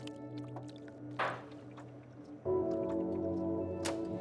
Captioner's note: water gently splashing